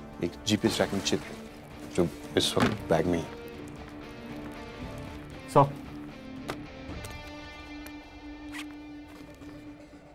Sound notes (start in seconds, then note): 8.4 zip opens